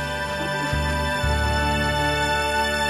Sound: chuckles

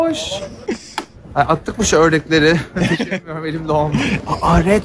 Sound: laughs

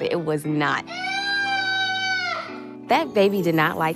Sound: crying

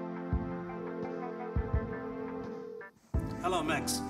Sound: phone ringing

